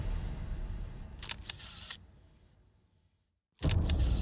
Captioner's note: camera shutter clicking; camera shutter clicking